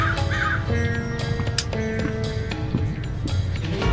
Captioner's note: crows squawk